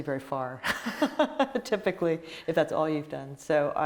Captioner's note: laughing